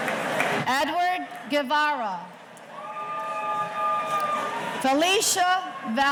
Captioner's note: audience cheering